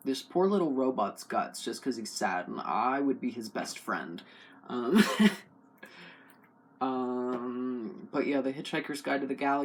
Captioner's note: laugh